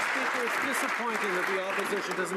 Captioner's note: some Applause